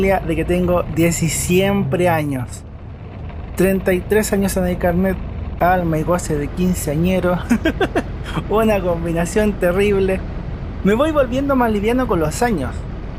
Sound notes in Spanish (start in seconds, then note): 7.4 risas